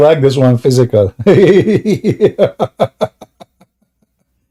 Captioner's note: Ketawa